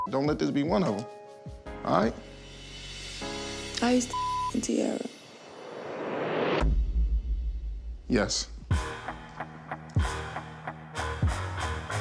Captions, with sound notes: don't let this be one of them. All right? - Are you still (beep) Tiarra? - Yes. (tense music)